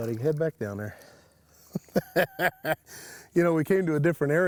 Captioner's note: chuckles